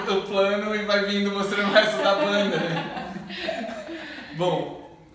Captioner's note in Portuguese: risos